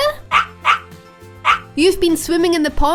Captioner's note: Dexter barking